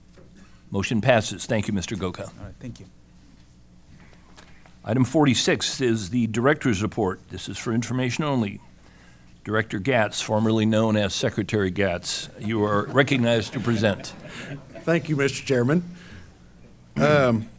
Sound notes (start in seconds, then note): 13.9 laughter